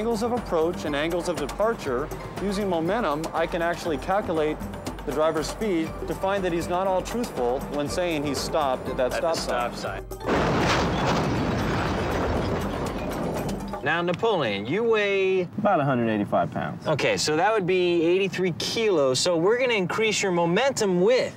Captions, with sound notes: THE ANGLES OF APPROACH AND ANGLES OF DEPARTURE USING MOMENTUM I CAN ACTUALLY CALCULATE THE DRIVER'S SPEED TO FIND THAT HE'S NOT ALL TRUTHFUL WHEN SAYING HE STOPPED AT THAT STOP SIGN. AT THE STOP SIGN. ( metal crunching ) NOW, NAPOLEON, YOU WEIGH... OUT 185 POUNDS. OKAY, SO THAT WOULD BE 83 KILOS. SO WE'RE GOING TO INCREASE YOUR MOMENTUM WITH..